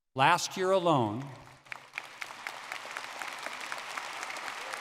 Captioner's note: audience clapping